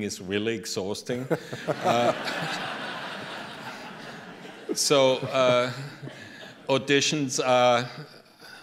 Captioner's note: laughter